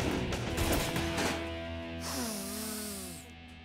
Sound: sniffs

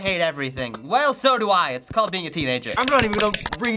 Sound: grumpily; rapid clicking

